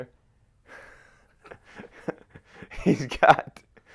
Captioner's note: laughs